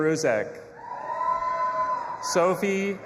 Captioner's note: audience applauding and cheering